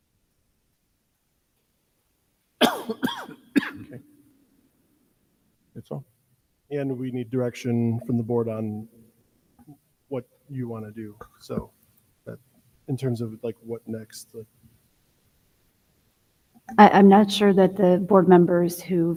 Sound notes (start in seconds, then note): 2.6 person coughing